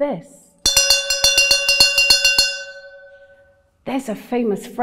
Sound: bell ringing

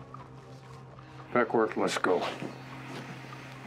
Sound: footsteps retreating

